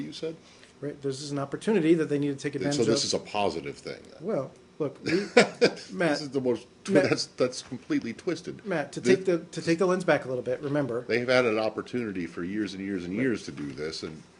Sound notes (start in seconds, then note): 5.0 laughter